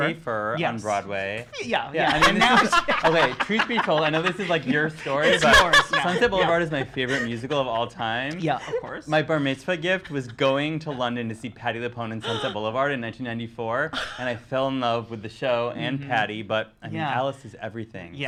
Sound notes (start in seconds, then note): 2.5 laughing